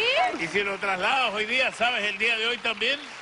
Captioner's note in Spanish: Aplausos